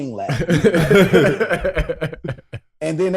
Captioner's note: hosts chuckle